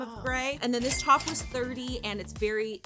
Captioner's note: cash register chiming